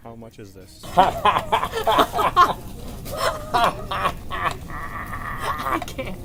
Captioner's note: laughs in raven